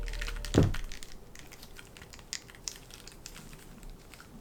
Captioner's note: falling sound